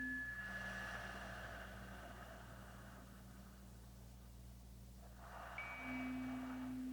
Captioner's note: chimes ringing continues; slow breathing continues